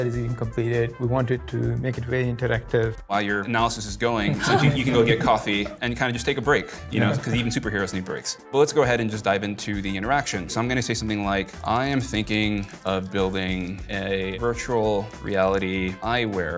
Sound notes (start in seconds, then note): 4.1 laughs